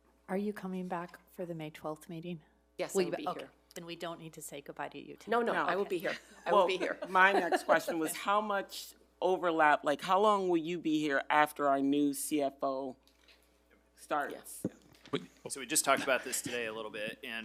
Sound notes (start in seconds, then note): 6.5 laughs